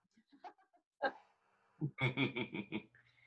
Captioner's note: laughs